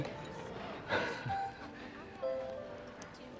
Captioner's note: laughs